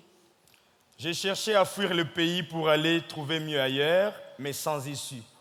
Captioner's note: speaking in French